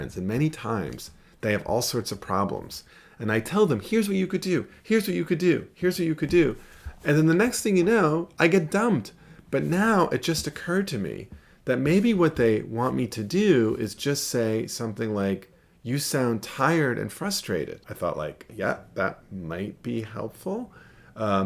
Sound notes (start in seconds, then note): none